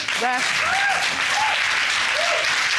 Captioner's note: audience applauding